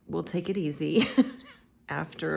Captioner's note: laughing